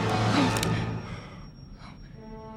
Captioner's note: gasps